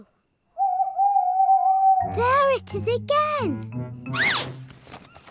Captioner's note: owl hoots